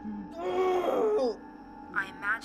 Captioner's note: Kenny screams